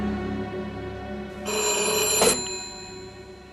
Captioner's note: phone ringing